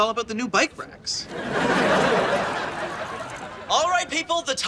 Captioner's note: audience laughs